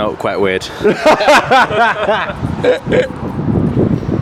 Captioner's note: all laughing